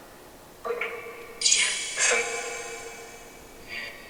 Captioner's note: robotic noises